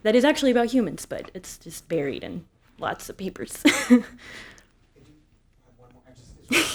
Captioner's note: chuckles